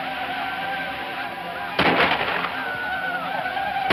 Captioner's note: gunshots